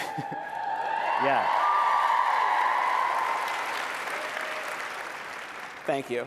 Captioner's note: applause